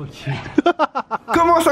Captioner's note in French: rires